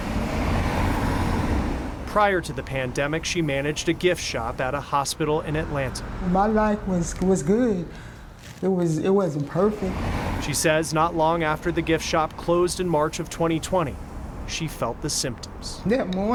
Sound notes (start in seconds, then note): 0.0 cars passing